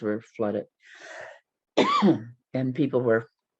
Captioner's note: coughs